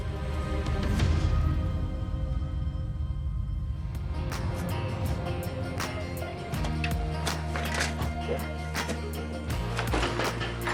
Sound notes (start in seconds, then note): 0.1 suspenseful music; 3.9 slow bluesy music; 8.1 metal clanging